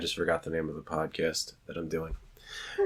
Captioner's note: laughs